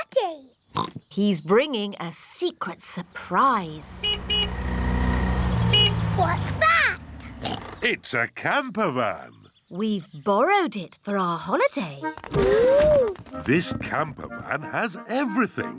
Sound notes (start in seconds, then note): 0.7 oinks; 3.6 horn honks; 7.3 oinks